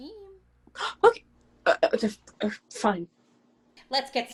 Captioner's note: gasp, then stammering